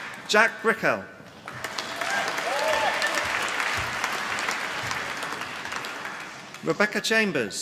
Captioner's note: applause